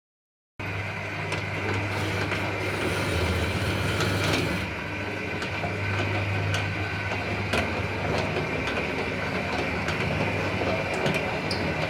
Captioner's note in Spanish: Ruido de persiana de metal